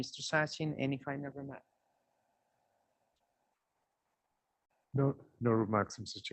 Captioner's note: A pause